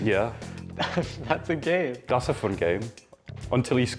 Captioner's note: laughter